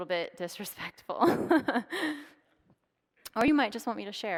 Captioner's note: laughs